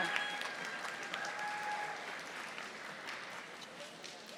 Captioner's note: audience applauding